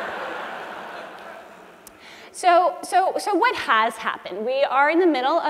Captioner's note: laugh